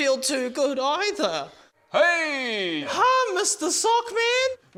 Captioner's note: none